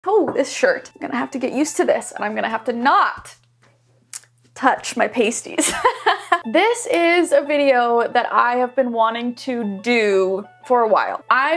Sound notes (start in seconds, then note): 5.6 laughing